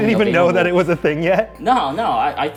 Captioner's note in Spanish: ríe